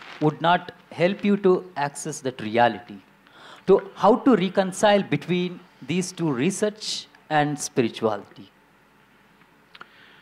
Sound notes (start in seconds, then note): none